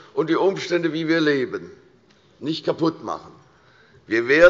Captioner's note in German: none